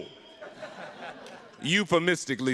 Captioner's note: audience laughing